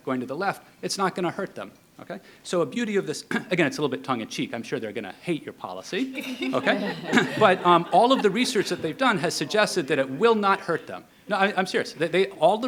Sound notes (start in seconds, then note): 5.9 people laughing